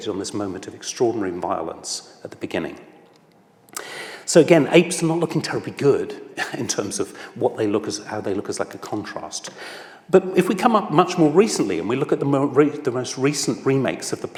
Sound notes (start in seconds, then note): 6.9 laughs